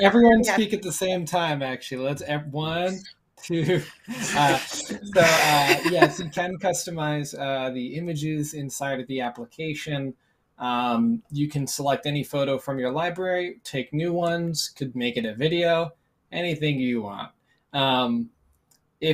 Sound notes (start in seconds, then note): 3.5 laughter